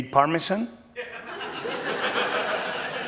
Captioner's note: laughter